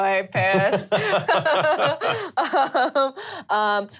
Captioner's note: laughing